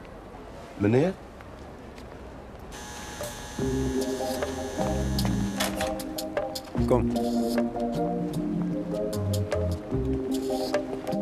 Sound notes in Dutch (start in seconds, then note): 2.5 deur gaat open